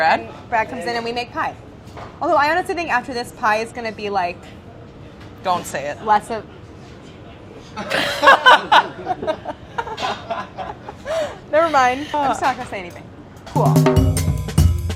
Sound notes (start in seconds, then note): 7.8 group laughing; 13.5 upbeat eclectic drumming